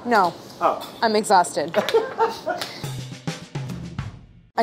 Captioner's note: laughing